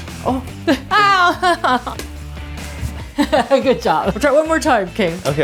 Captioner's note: rock music; laughing